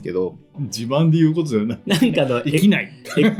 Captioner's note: laughs